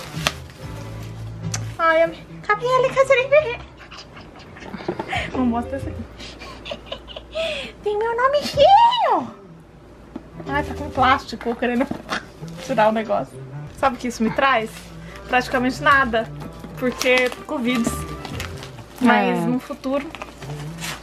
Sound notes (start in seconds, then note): 7.7 in a very high and weird voice